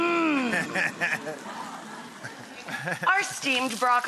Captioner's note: laughs